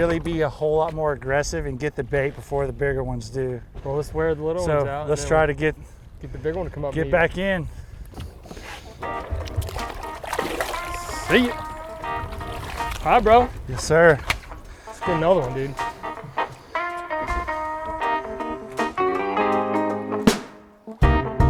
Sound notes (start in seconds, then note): 9.4 fish splashing; 12.4 water splashing; 14.2 hands slapping; 17.6 cheerful music continues